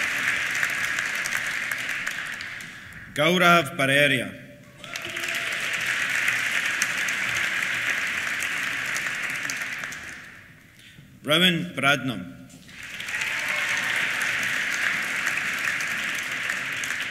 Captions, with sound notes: Gaurav Bareria. (CHEERS) (APPLAUSE) Rowan Bradnum. (CHEERS) (APPLAUSE)